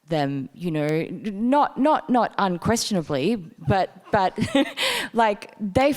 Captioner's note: laughing